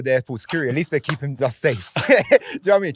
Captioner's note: laughs